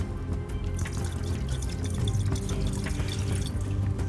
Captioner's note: liquid splashing